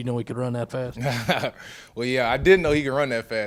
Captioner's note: laughing